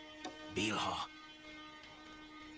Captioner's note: whispers